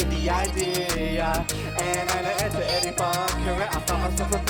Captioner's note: in Tamil